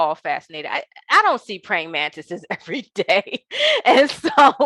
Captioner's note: laughing